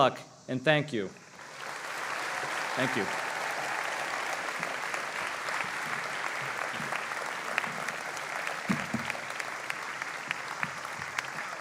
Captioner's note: applause